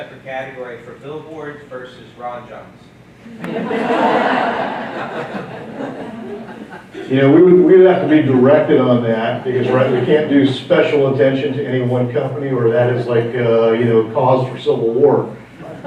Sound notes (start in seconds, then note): 3.4 laughing